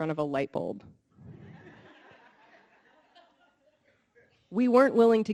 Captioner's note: audience laughing